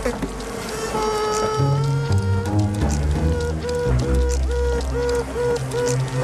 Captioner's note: responding sibling bee's Piping-Quaking